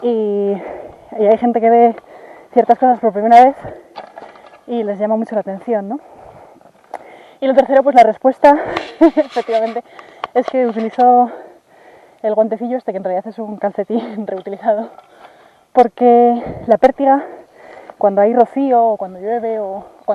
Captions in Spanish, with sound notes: y... hay gente que ve ciertas cosas por primera vez, y les llama mucho la atención, ¿no? y lo tercero, pues la respuesta [se ríe] efectivamente. es que utilizo... el guantecillo este, que en realidad es un calcetín reutilizado porque... la pértiga, cuando hay rocío o cuando llueve, o